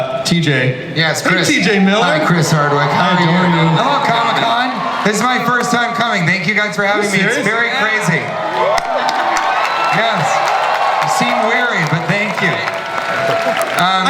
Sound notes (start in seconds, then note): 0.0 Chris laughs; 8.7 audience cheers